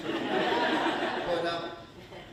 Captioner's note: audience laughing